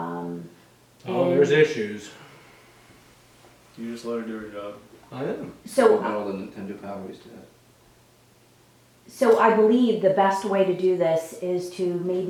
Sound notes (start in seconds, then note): 3.7 mumbling